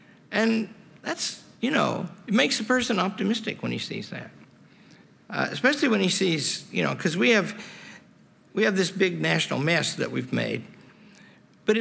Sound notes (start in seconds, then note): none